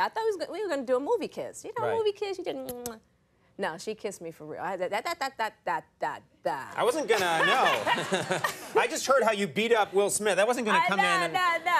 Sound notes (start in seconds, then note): 2.6 Jada peck kissing; 7.2 audience laughing